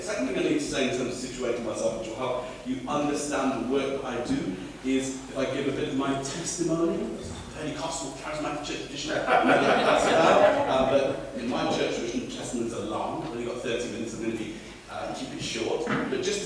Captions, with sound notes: The second thing I need to say which will help you understand the work I do is if I give a bit of my testimony - the Pentecostal, charismatic church tradition will know what that's about. [Laughter] In my church tradition, testimonies are long. I've only got thirty minutes so I'm going to be, I'm going to keep it short.